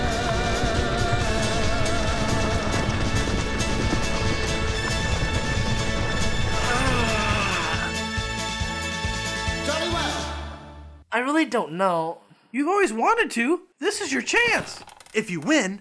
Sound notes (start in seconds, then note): 6.4 groaning